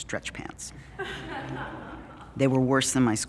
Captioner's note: audience Laughing